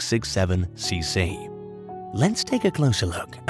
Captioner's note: narrator uses a more interesting ,story telling tone